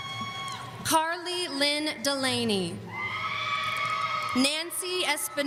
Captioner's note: audience cheering; audience cheering